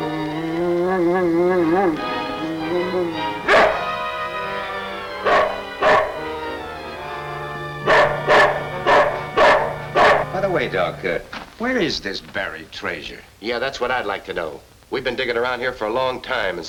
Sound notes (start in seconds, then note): 0.0 suspenseful orchestral music; 0.2 devil growls; 4.1 dramatic orchestral music; 5.2 Devil barks